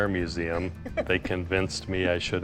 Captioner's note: laughing